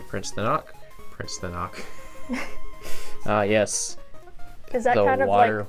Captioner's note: laughs